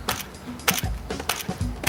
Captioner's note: shutter clicking